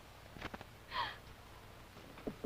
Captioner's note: sobs